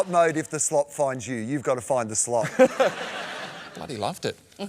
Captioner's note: laughter